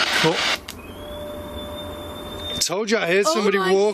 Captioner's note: energy detector device beeping and whistling